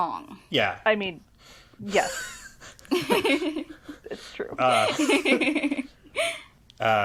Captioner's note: laugh